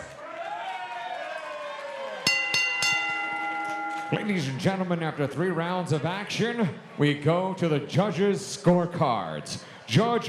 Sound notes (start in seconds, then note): 0.0 audience cheering; 2.2 bell rings